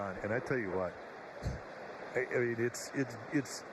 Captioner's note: laughter